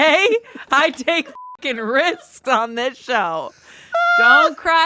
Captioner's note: beep